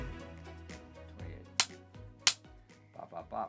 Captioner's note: claps